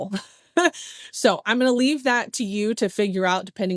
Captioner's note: laughs